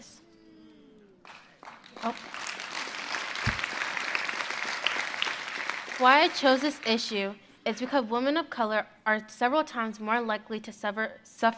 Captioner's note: applause